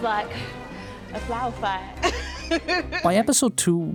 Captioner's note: laughs